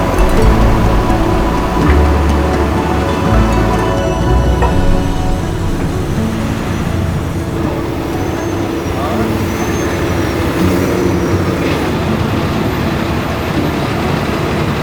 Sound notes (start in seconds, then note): 3.9 calm lively music continues; 7.9 truck humming; 12.0 truck humming